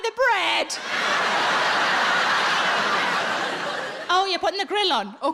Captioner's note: audience laughing